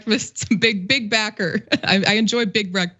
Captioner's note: laugh